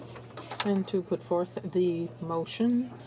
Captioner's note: speaking french